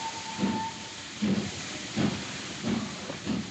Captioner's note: train Whistle Toots